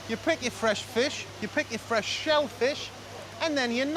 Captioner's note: speaking Chinese